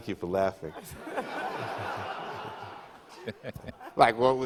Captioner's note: audience laughter